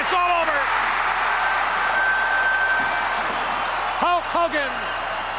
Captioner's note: crowd cheers